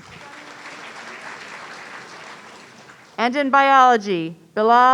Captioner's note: audience applauding